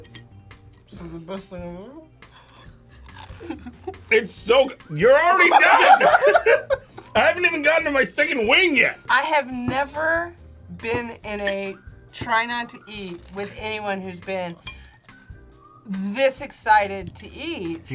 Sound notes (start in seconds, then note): 3.2 laughs; 5.3 both laugh